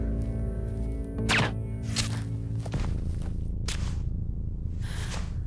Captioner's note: gun fires; Quinn gasps